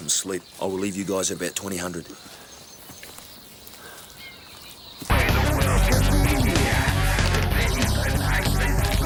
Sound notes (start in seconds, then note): 3.2 birds chirping; 5.1 heavy metal music